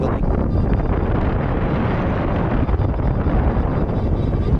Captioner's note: wind gusting